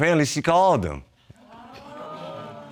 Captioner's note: audience exclaiming